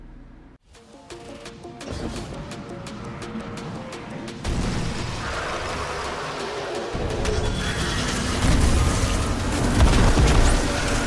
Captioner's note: action fighting sounds, explosions